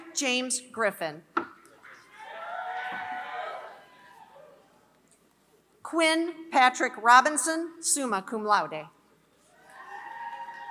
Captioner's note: applause